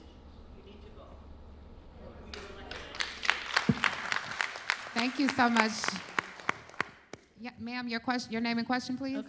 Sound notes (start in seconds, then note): 2.3 applause